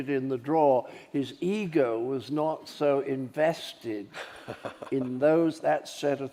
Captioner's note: host chuckles